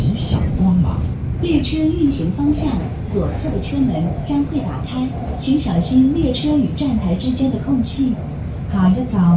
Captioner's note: Regular Mandarin announcement